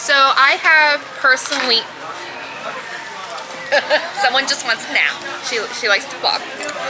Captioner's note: dog shifts